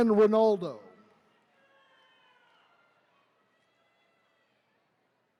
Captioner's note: attendees cheering